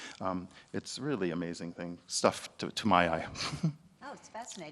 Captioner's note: chuckles